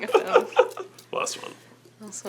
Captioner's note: laughs